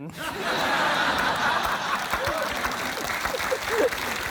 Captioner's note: laughter